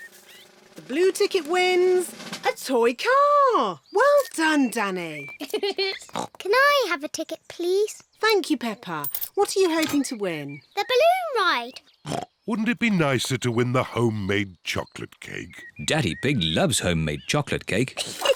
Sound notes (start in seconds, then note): 5.3 giggles; 6.1 oinks; 12.0 oinks